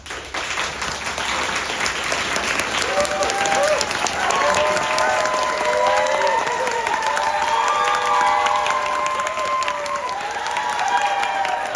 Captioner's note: applause